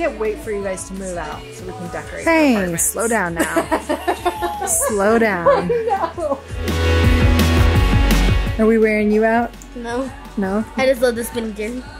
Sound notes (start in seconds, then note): 3.0 laughs; 6.7 upbeat music